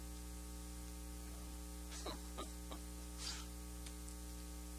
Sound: laughing

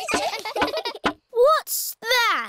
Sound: all giggling

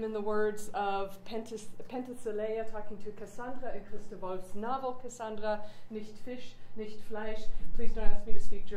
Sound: speaks German

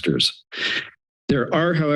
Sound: inhales

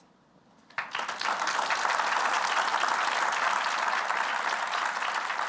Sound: applause

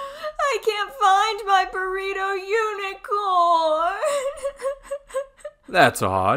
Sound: sobbing

